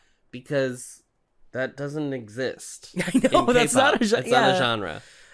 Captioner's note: laughing